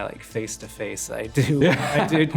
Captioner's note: Dev laughs